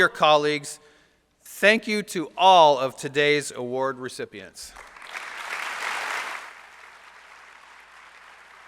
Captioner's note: applause